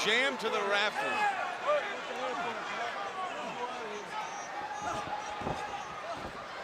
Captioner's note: crowd chatter